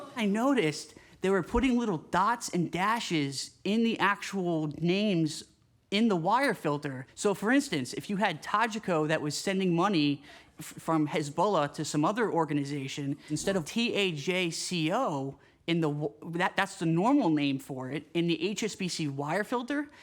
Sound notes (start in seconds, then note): none